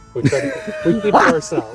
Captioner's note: all laughing